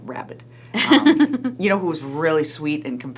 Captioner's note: laughing